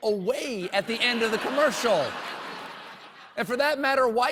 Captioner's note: laughter